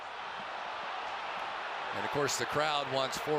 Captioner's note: cheering